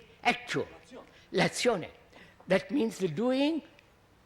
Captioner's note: Italian